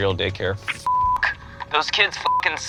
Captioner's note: beep